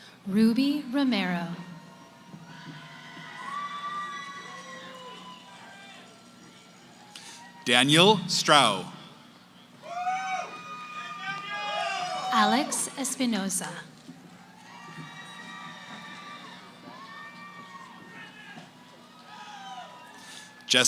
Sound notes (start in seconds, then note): 0.0 cheering; 3.1 cheering; 14.1 cheering